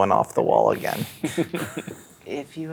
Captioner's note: players chuckling